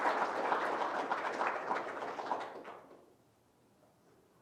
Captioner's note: audience applauding